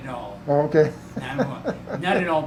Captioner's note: chuckles